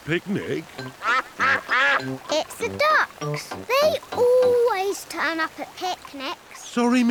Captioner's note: quacks